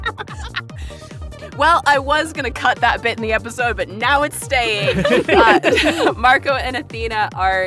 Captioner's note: laughs; laughs